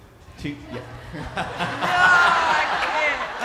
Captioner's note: attendees laughing